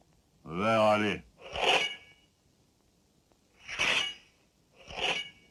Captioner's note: swords scraping